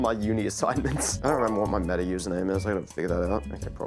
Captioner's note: content warning notification sound